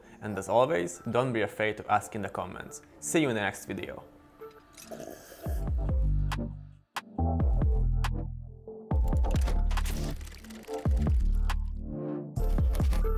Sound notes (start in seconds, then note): 4.5 sips into coffee